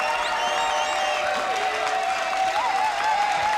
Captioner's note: clapping and cheering